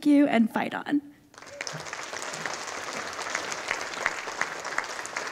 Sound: audience applauding

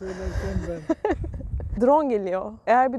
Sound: laughings

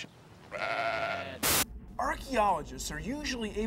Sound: <i> bleating</i>

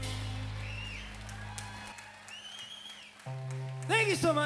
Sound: crowd cheering

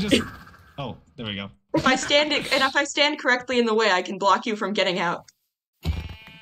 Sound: laughs

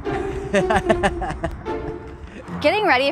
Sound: laughter

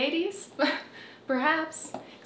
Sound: chuckles

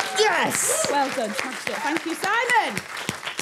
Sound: applause

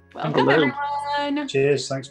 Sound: clamoring greetings

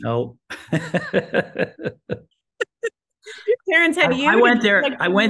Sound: laughter

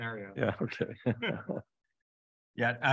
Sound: chuckles

